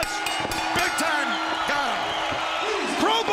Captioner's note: bell ringing